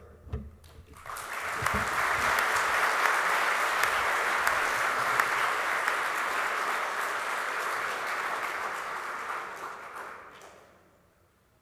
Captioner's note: applause